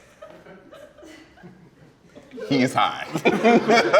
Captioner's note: laughter